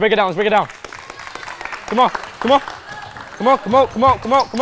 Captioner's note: participants clapping